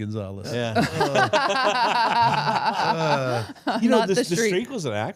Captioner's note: all laughing